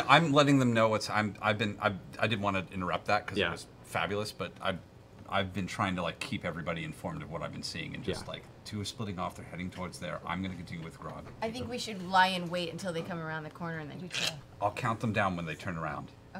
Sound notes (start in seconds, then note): 14.2 mimics choking sound